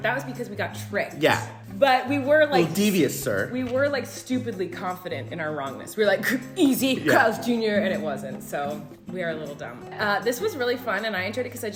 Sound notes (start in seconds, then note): none